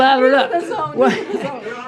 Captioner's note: laughs